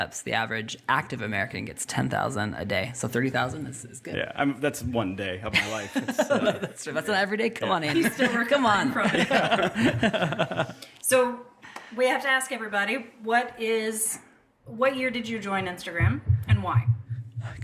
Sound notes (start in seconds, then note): 5.5 laughs; 9.4 all laughing